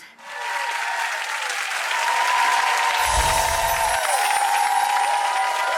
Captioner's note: audience cheering and applauding